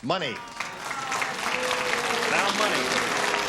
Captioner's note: applause